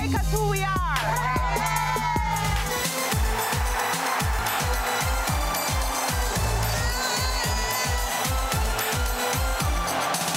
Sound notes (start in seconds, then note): 1.4 group cheering; 3.0 soca music; 6.9 shouting